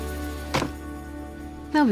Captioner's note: book thuds